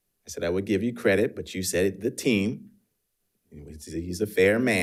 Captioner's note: none